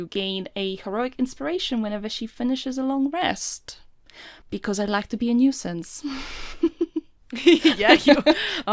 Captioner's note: laughing; laughs